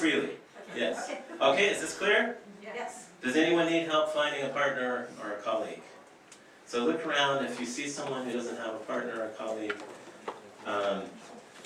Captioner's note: small group discussion